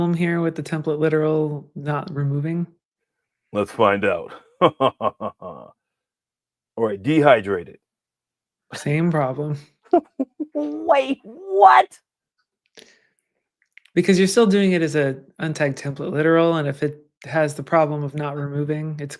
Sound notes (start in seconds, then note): 4.6 laughs; 10.0 chuckles